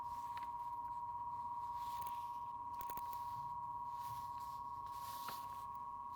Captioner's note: electronic humming